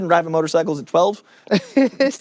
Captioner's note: chuckles